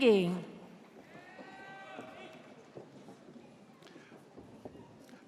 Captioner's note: audience cheers